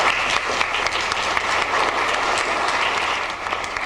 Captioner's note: applauding